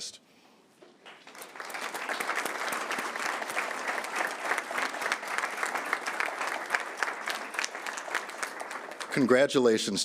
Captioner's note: applause